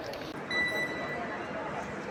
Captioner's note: electronic beeping